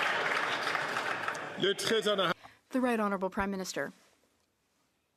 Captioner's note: applause